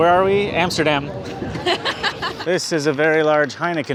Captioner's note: laughs